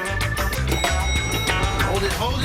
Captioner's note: elevator bell dings